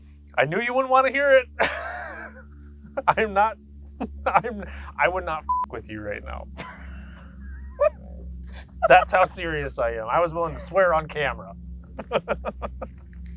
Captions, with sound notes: I knew you wouldn't wanna hear it. (laughs) I would not (beep) with you right now. (laughs) That's how serious I am. I was willing to swear on camera. (laughs)